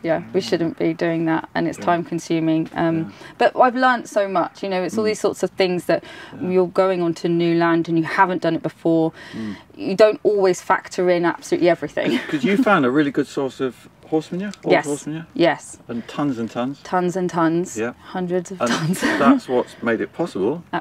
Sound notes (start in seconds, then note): 12.0 laughs